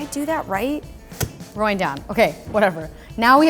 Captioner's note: clunking